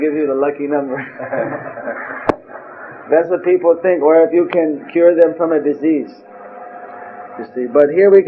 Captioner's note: laughs; all laughing